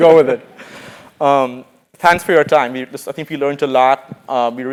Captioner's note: laugh